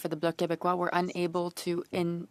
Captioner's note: speaking French